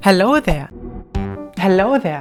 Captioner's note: gentle shwoop